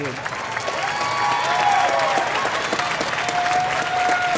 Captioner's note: audience applauding